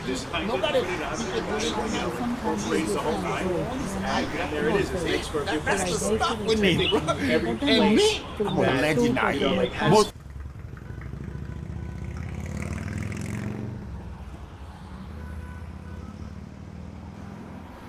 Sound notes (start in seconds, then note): 1.6 background chattering; 10.1 motorcycle revving; 15.2 cars honking